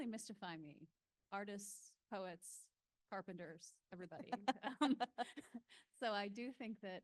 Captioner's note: laughing